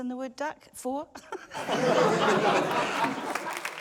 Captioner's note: laughter; laughs; applause